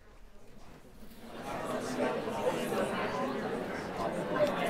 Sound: chatter

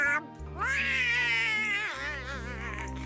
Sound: donald crying

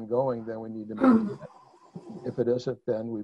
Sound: cough drowns out other sounds

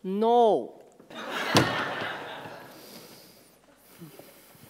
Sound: door slams shut

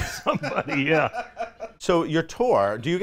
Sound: laughs

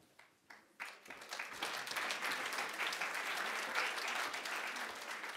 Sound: audience applauding

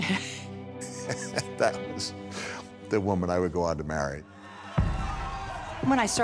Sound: laughing; laughs

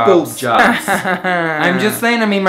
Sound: laughing

